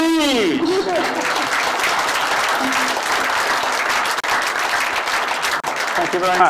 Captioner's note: applause